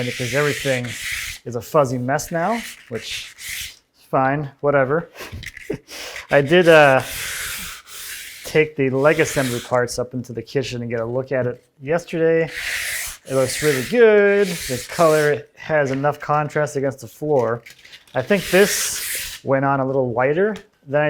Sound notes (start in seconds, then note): 12.4 sandpaper skritching